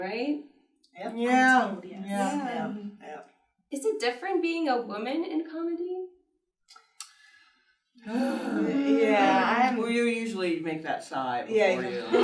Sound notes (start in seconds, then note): 1.3 comedians agreeing; 8.0 comedians sigh